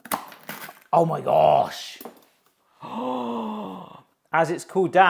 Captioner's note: gasps